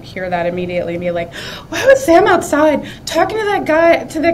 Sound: gasps

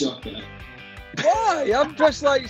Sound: laughing

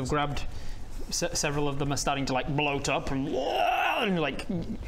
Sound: rwaaarggh

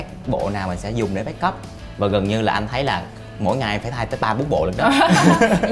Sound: laughing

